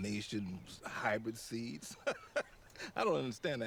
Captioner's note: laughs